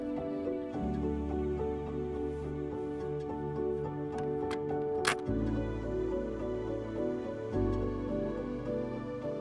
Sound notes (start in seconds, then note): 5.0 tank clicks into place